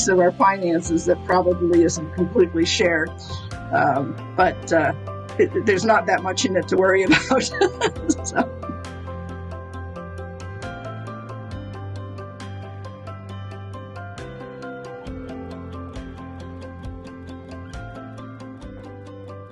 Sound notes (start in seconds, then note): 7.1 laughs; 11.2 upbeat music